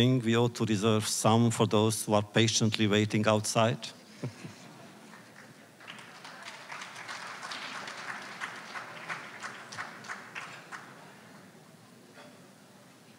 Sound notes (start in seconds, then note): 4.1 laughter; 5.0 applause